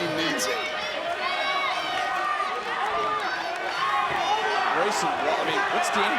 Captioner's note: crowd murmuring